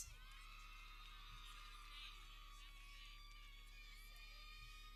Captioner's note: people cheering